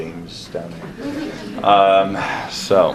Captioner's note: class laughs